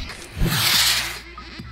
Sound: whoosh

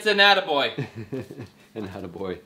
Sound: laughs

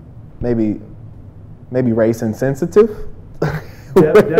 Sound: laughs

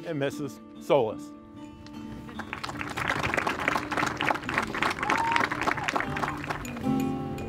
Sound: applause

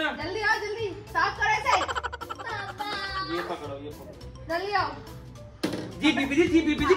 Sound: laughter

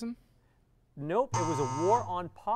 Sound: error buzzer

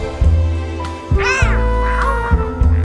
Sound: happy meows

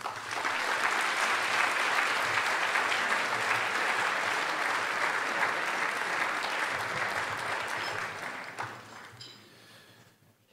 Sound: applause

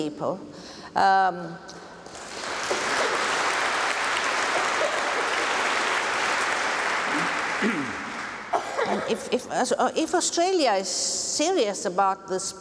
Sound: applause

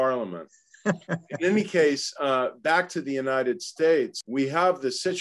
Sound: laugh

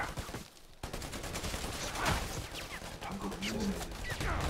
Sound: gunshots firing

